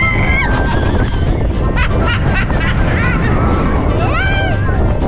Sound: laughs

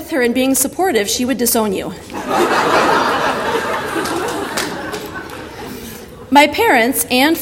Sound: audience laughter

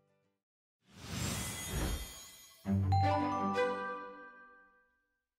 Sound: whooshing; lively music

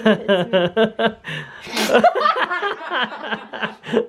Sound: laughs

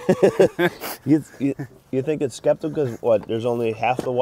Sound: laughs

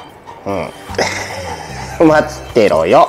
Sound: laughs

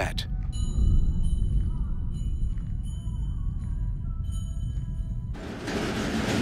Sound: bells jingling

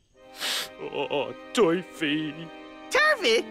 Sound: sniffs

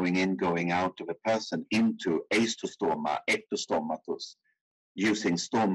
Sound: speaking in foreign language

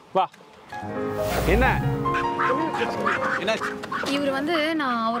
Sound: indistinct chatter

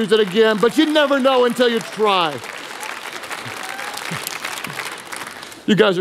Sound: congregation applauding; laughing; congregation cheering

